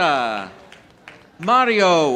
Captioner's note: audience applauding